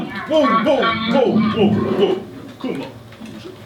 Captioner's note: SFX - Angry Camel noise